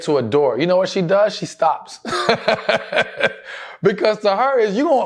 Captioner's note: laughs